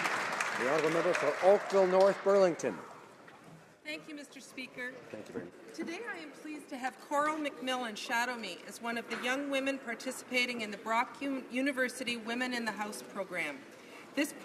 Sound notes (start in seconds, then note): 2.4 some Applause